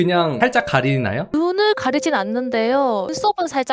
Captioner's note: voiceover